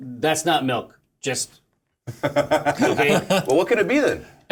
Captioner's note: laughter